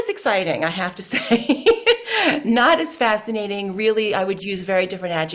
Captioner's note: laughs